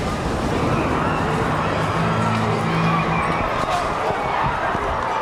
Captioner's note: people screaming